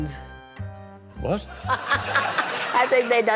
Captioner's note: cackles